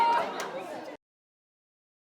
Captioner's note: audience laughing